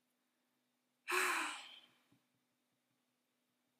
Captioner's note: dumbfounded philosopher sigh